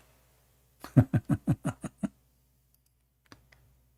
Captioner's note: Ketawa